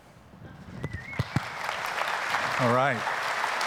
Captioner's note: applause